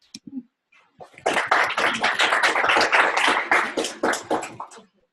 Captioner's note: applause